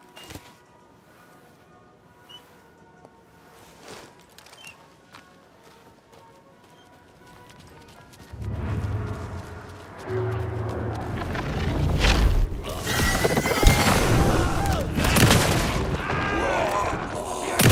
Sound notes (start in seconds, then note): 6.5 screams; 12.9 gunshots